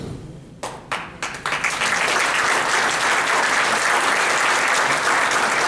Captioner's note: applause